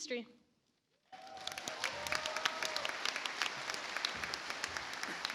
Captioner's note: audience applauds